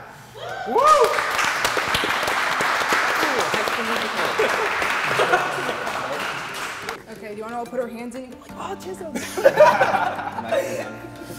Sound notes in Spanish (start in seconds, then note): 0.8 Aplausos; 9.1 Risas